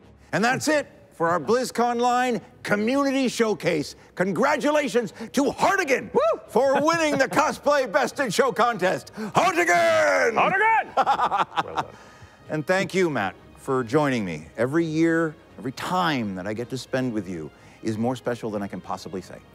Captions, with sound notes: And that's it for our Blizzconline Community Showcase. -Congratulations to Hartigan -YELPS For winning the cosplay Best in show contest. -Hartigan. -Hartigan. (LAUGHS) And thank you Matt for joining me every year. Every time that I get to spend with you is more special than I can possibly say.